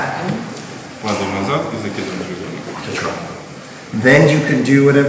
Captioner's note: speaking in a foreign language